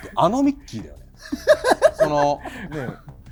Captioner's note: laughter